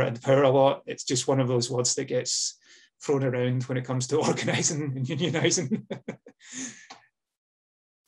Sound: laughs

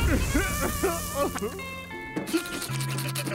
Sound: crying

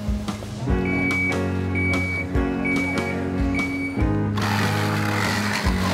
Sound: fire engine beeping; drill whizzing

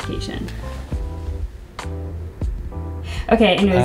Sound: sighs

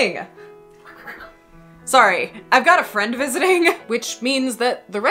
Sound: undignified squawking

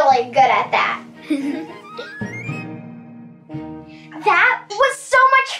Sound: whimsical music; both laugh

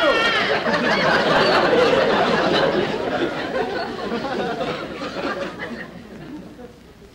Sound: audience Laughing

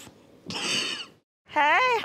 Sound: chuckles

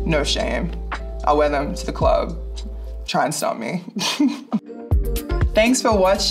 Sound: laughs

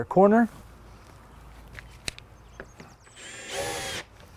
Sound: drill whirring, no additional audio

